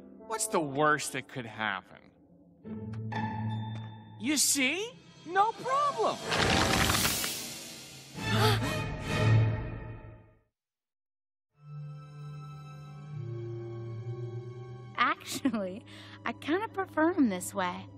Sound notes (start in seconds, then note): 8.3 all gasping